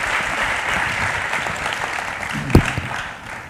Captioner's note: applause